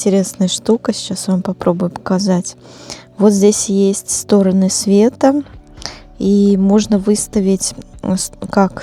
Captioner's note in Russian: фыркает